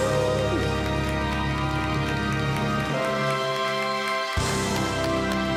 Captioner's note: cheering, applauding